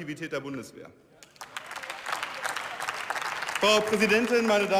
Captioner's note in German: Beifall